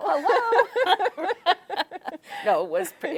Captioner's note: both laughing